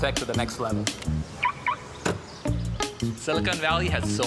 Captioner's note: car alarm chirping